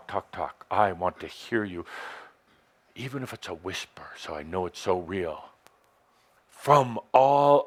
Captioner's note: speaking very passionately